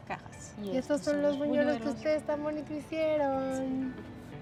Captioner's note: speaking Spanish